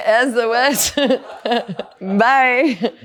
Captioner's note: laughs